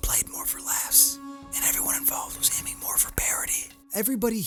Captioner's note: whispering